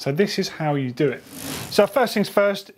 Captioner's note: bike wheel spinning